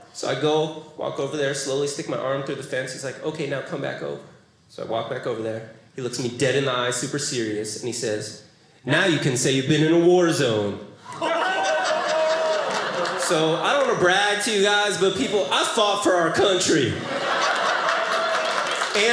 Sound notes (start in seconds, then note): 11.1 audience laughing